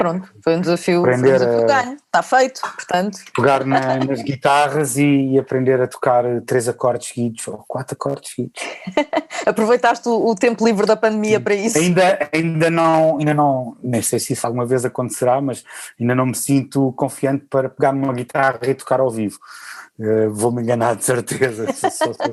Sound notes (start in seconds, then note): 8.6 laughter; 21.2 laughter